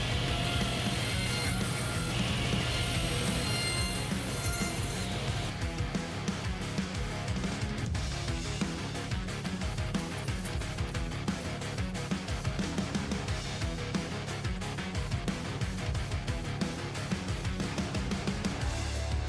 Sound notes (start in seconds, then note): 0.0 saw machine whirring; 9.4 rock music continues